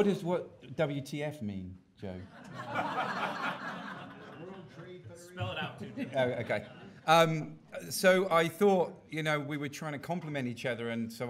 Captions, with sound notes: By the way, what is what WTF mean, Joe? (audience laughing) - [Voiceover] World Trade Federation. - [Voiceover] Spell it out too. - Okay. So I thought we were trying to complement each other